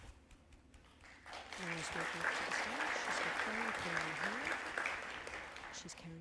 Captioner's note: applause